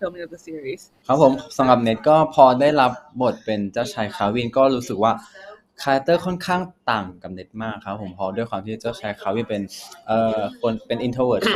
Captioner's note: answering in Thai